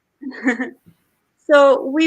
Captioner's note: laughs